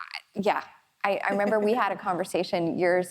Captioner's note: laughs